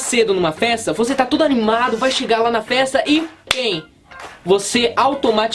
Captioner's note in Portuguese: som das mãos